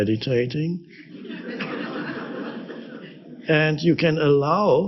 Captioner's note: audience laughs